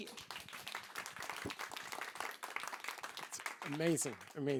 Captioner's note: applause